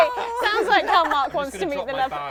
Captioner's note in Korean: 웃음